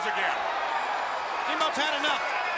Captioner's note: crowd cheering